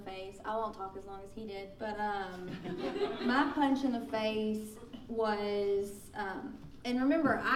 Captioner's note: laughing